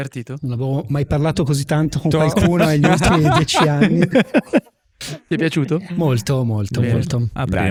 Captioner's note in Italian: laughter